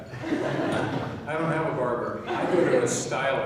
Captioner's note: laughing; laughing